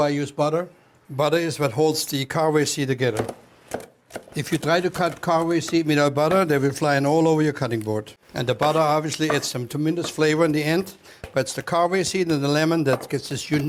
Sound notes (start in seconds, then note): 4.2 chopping